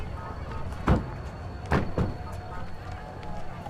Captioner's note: door shuts